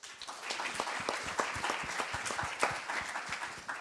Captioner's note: applause